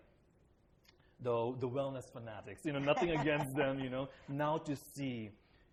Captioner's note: laughter